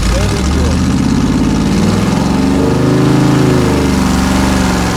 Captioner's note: engine revving